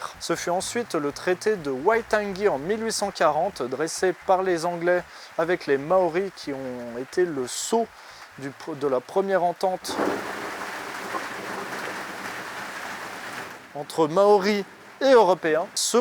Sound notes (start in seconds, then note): 9.8 thunder roaring from afar